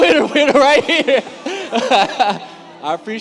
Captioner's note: laughs